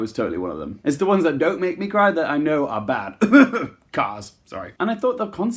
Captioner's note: cough